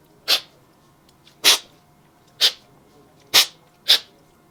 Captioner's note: slurping